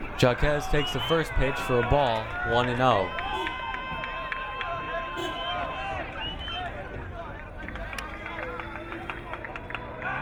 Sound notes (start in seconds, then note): 4.0 crowd cheering